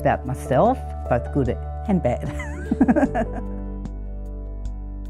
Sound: laughs

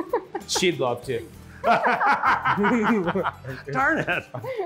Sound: group laughing

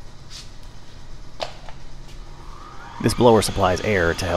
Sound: switch clicks, motor whirrs

